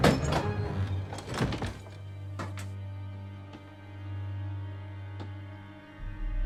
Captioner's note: door creaking; suspenseful orchestral music